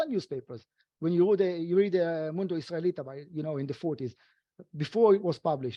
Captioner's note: speaking foreign language